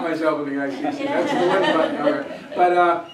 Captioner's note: laughter